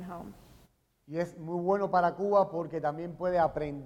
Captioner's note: speaking in Spanish